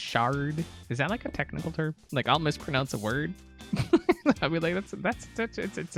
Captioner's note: laughs